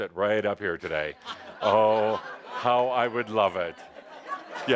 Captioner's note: laughter